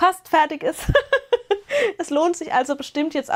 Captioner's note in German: gelächter